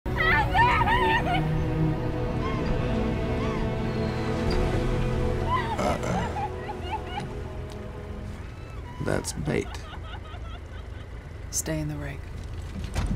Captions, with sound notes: [sobbing] Help me! Help me, please! - Uh, oh. That's bait. Stay in the Rig.